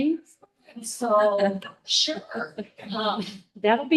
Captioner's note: audience laughing